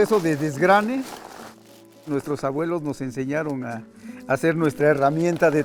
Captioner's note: speaking in foreign language